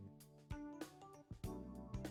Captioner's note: none